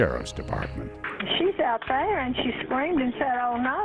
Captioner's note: 911 recording